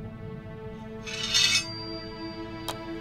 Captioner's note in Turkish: Kılıç sesi